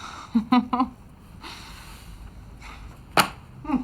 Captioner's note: laughs